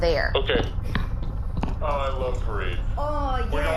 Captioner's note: footsteps, distant